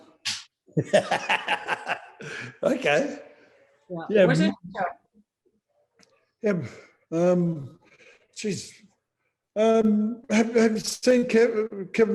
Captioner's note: laughter